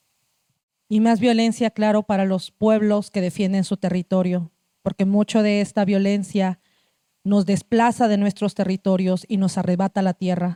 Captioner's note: speaking Zapotec language